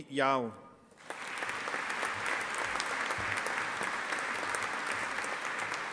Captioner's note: audience applauding